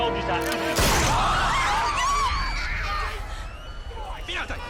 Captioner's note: screaming; shouts in foreign language